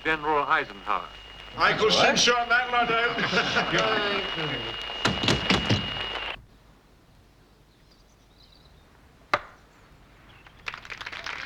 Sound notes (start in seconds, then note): 3.2 static